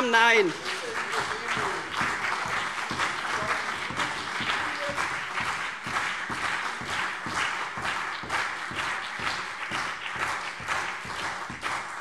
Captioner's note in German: Anhaltender Beifall CDU und BÜNDNIS 90/DIE GRÜNEN